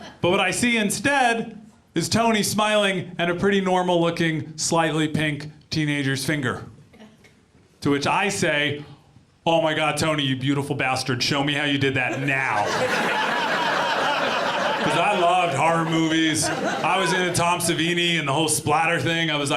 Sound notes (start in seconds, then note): 12.1 audience laughs